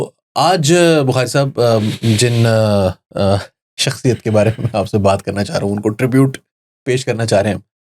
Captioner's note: laughing